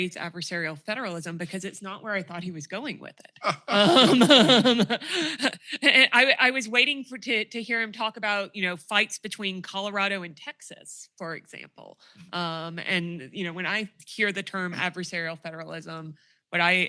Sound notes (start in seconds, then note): 3.5 laughter